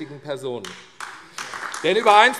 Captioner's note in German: Beifall AfD